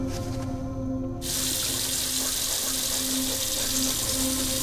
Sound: water running

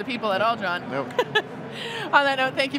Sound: chuckles

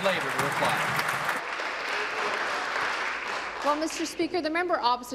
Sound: applause

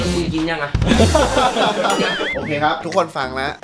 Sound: laughs

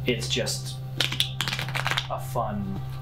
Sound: cards shuffling

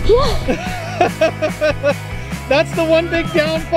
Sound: chuckles

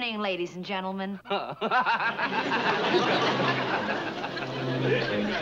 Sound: laughs

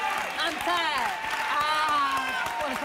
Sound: applause

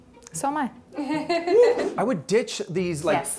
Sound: laughter

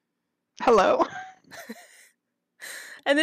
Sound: laugter

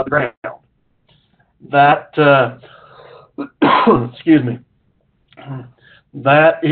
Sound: cough

